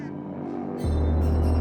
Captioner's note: crows squawking; bells ringing